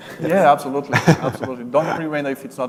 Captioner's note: laughs